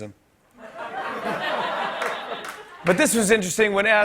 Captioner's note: laughter